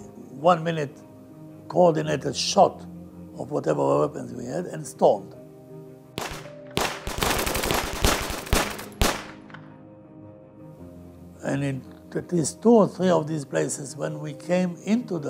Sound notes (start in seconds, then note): 6.2 gunfire